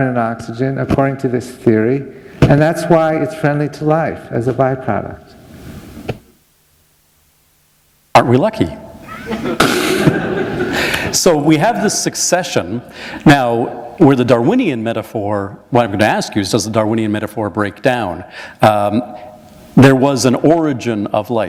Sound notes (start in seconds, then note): 9.0 laughter